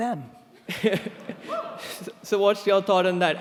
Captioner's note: laughing